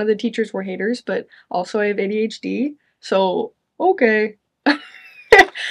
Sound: chuckles

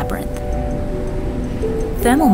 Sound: whooshing

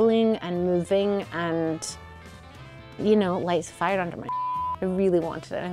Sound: beep

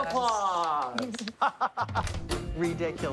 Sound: laughs

